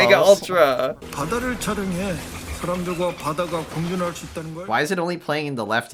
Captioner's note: speaking Korean, left ear only